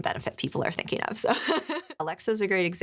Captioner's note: laughing